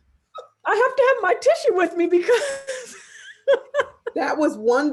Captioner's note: laughing